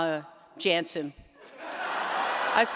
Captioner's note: laughter